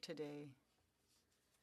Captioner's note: speaking French